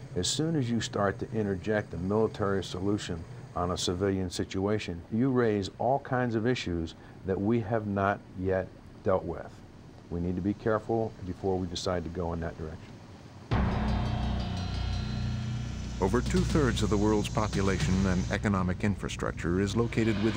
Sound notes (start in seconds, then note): 13.5 suspenseful instrumental music; 16.0 voiceover